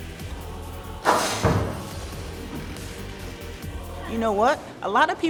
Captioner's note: upbeat music; basketball falling through rim and net